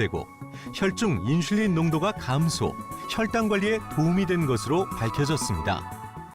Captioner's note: voiceover